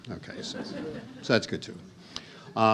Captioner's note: audience chuckles